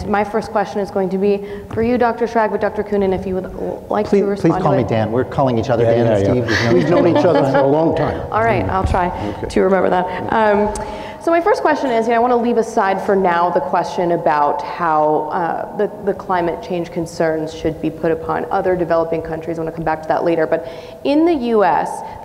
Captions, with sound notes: My first question is going to be for you, Dr. Schrag with Dr. Koonin, if you would likely rebut... - Please call me Dan. We're calling each other "Dan" and "Steve." - [laughs] - Yeah, yeah. We've known each other for a long time. - All right, I'll try to remember that. [clicks tongue] My first question is, and I want to leave aside for now the question about how the climate change concerns should be put upon other developing countries — we'll come back that later — but in the US,